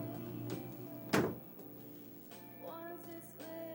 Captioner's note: soul music; door shutting